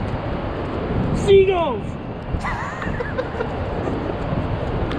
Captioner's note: laughing